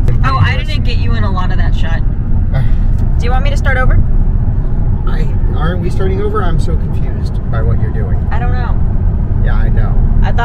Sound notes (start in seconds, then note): 2.5 sighs